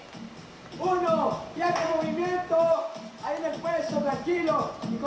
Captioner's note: trainer giving instructions